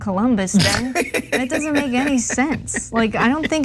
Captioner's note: laugh